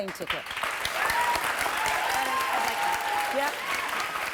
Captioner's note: applause